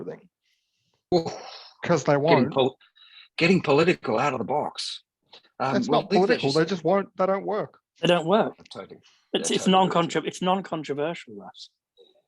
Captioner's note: laughter